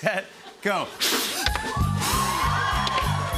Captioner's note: drumroll; both blowing; cheering